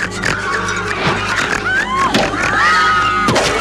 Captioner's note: girl screaming; thud